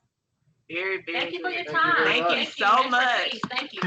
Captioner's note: multiple voices say thank you